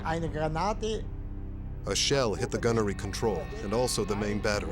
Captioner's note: speaking german